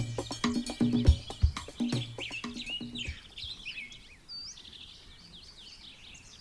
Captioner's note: birds chirping